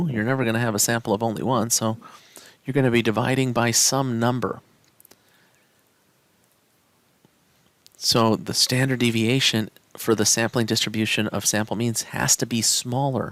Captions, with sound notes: You're never going to have a sample of only one, so you're going to be dividing by some number. [No Speech Detected] So the standard deviation for the sampling distribution of sample means has to be smaller